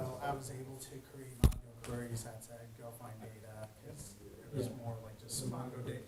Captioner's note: man speaking faintly off microphone